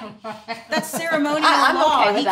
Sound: laughs

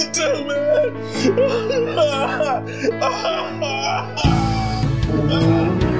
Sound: Tommy cries out

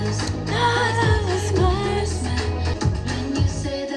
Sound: imitates breathy voice

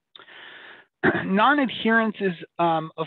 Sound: clears throat

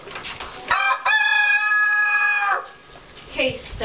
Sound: crowing

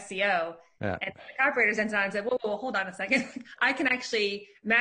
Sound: faintly speaking

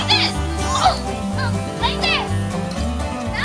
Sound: groans

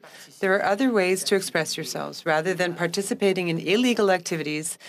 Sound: speaking French

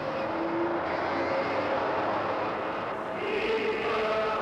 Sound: vehicle driving past

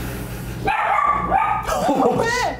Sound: bark bark

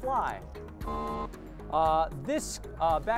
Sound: error buzzer

